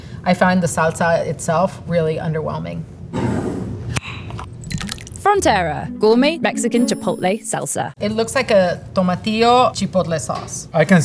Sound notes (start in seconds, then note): 3.0 jar sliding; 3.0 lid opening; 4.5 salsa pouring